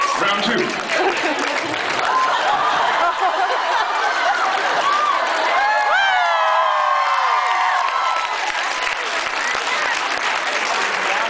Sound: laughs and applauds

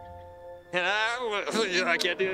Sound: stammering

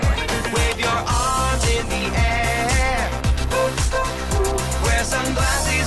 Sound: ooh, ooh, ooh

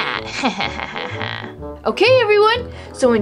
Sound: laughs evilly

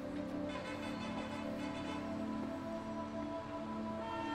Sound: horns honking

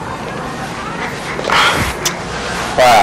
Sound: sighs

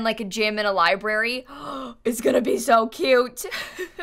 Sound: gasps

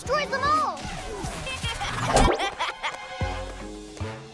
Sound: evil laugh

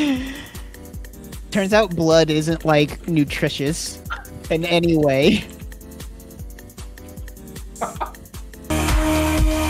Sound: laughing; Baaulp chortles

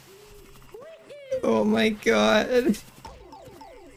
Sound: still laughing

